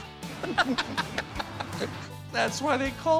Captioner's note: laughing